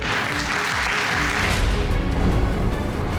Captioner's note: crowd clapping